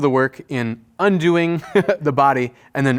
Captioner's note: chuckles